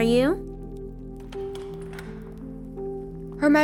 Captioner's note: door Opens